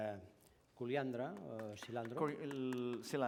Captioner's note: non-english